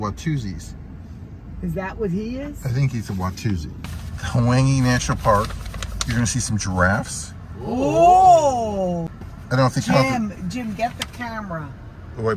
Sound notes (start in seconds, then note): 7.6 ladies exclaim excitement